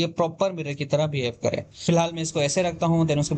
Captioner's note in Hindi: नाक से की जाने वाली आवाज़